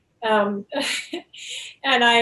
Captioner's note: chuckles